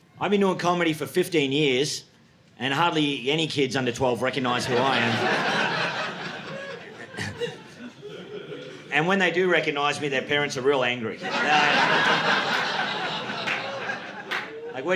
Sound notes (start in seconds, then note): 7.6 audience laughing; 11.0 audience laughing